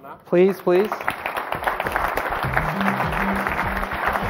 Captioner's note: applause